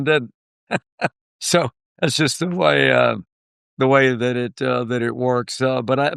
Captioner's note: laughter